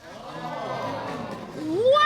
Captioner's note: audience exclaims